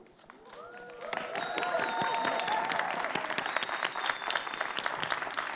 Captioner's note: audience clapping